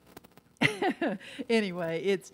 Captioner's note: laughs